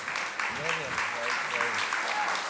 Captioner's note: applause